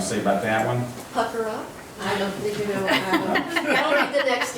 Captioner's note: murmurs; laughs